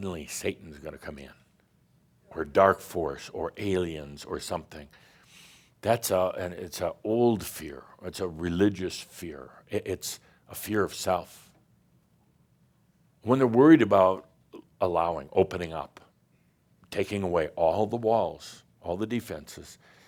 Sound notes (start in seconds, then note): none